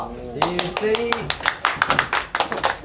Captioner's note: clap clap